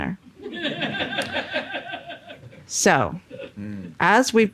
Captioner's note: audience laughing